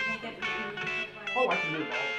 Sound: indistinct chatter

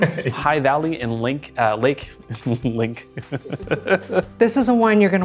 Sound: laughing

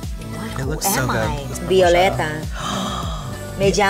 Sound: speaking in Spanish; gasps; speaking in Spanish

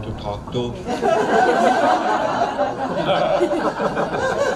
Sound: crowd laughs

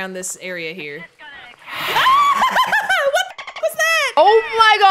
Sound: laugh

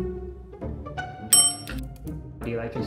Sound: bell dinging

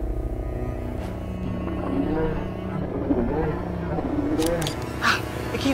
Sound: growling; camera snap

